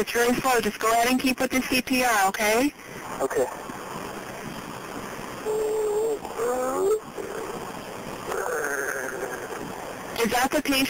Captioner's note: patient breathing strangely